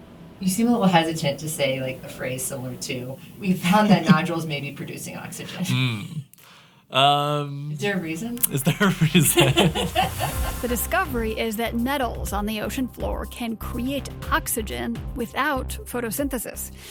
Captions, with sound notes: You seem a little hesitant to say, like, a phrase similar to: “We found that nodules may be producing oxygen.” [Laughs] Mm, um. Is there a reason? Is there a reason [Laughs]? “The discovery is that metals on the ocean floor can create oxygen without photosynthesis.